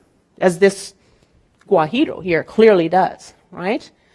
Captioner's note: speaking in Spanish